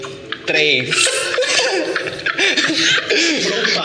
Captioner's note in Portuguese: Risos